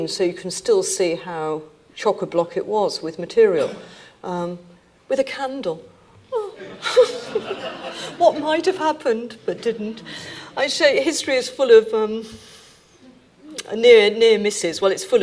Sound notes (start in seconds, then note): 6.5 laughs; 6.6 audience laughing; 10.1 chuckling